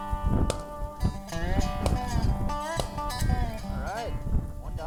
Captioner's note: gunshots